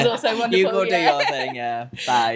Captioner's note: laughing